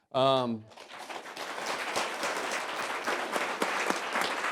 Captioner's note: applause